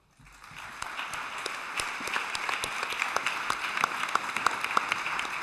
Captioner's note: applause